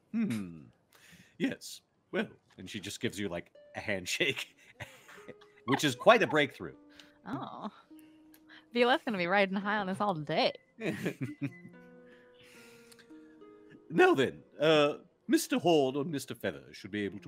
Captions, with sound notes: - Hmm. Yes, well. - And she just gives you, like, a handshake, which is quite a breakthrough. - Oh. Violette's gonna be riding high on this all day. (multiple chuckling) - Now then, Mr. Horne and Mr. Feather should be able